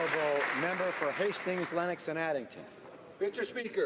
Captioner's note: applause